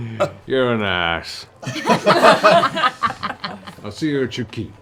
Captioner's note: laughs; laughter